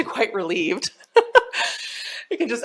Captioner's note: laughs